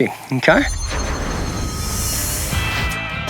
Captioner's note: shimmering